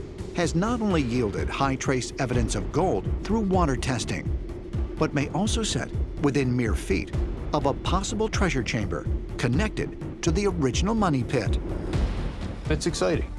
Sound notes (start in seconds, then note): none